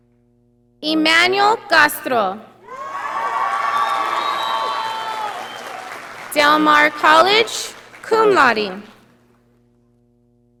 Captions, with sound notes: Emmannuel Castro. (audience applauding) Del Mar College, cum laude.